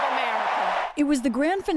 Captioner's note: cheering